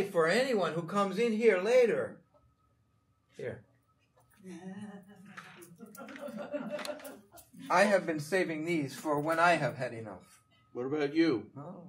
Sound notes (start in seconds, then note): 4.5 audience laughing